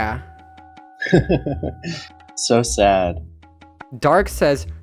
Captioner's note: laughs calmly